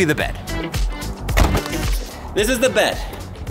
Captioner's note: door bangs